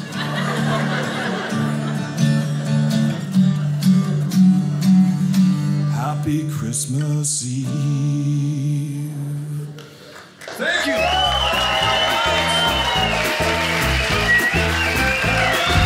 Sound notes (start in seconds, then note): 0.0 audience laughing; 12.6 audience cheers